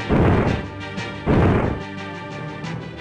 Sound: clonk

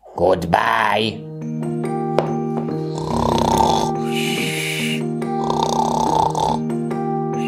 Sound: gentle music; snoring

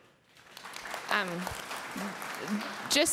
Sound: applause

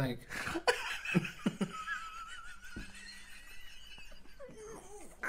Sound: wheezing Laughter

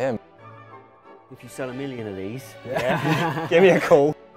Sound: laughing

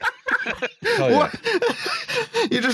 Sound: riotous laughter

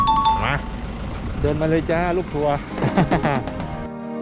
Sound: laugh

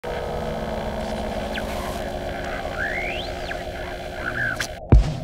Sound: ambient raido noise and static

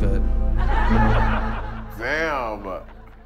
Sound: laughing

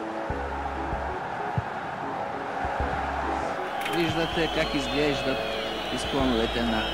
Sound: recordings playing

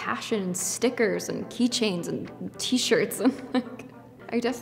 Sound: laughs

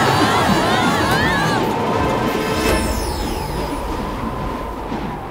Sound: group yelling; wind whistling

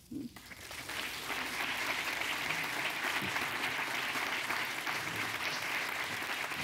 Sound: applause

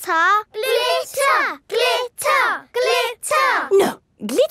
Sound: chanting

